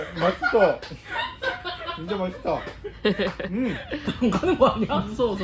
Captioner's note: dying of laughter